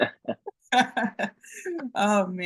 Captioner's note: both laughing